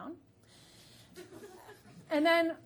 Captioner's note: audience laughing